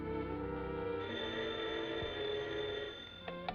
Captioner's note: phone rings